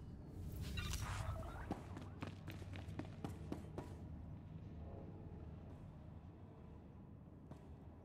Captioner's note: footsteps